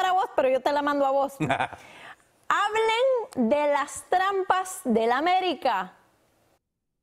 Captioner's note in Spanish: risas